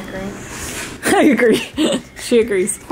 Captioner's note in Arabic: تضحك